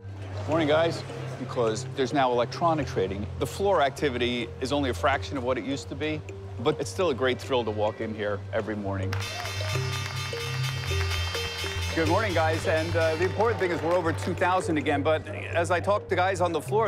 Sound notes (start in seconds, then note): 9.2 bell ringing